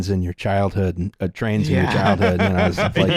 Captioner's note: laughs